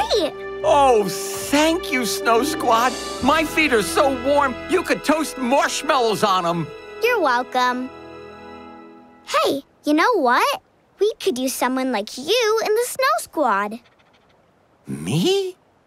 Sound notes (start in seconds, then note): none